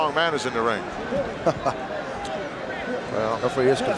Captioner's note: Pat chuckles